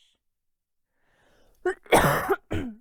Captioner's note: coughing